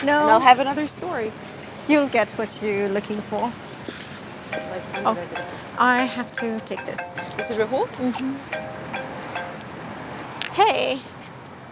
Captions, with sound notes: - No! - I'll have another story. - You'll get what you're looking for. (Ilona scoffs and mumbles) (phone rings) I have to take this. - Is it Rahul? - Um-Hm. Hey.